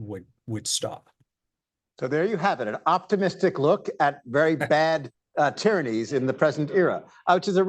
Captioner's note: laughter